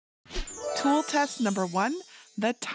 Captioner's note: glittery whoosh